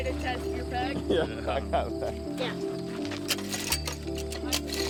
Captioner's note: laughs